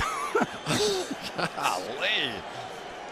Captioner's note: laughs